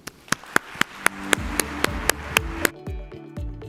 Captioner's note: applause